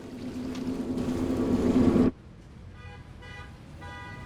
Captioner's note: heavy swoosh; car horn honks